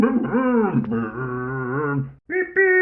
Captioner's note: Scruff makes scooter noises